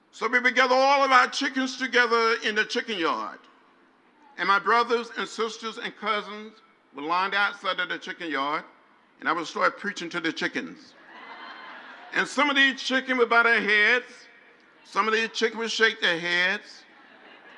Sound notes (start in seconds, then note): 11.0 crowd laughs